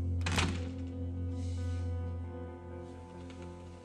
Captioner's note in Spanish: Ruido al cerrar la puerta